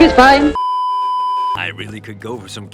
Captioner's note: beeeeeeeeeeeep